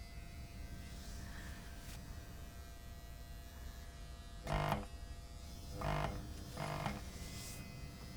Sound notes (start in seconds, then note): 5.4 light buzzing